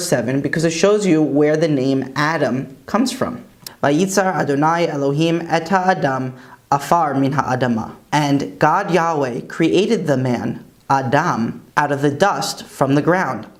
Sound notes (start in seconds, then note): 6.2 Hebrew